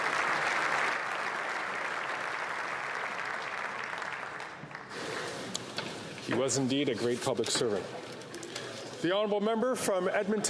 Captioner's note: applause